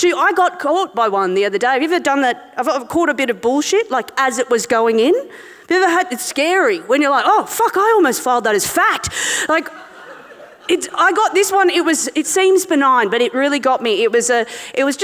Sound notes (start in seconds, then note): 9.5 audience laughing